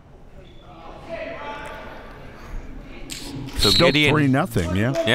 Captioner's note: crowd murmuring